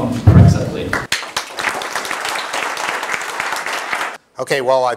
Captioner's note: applause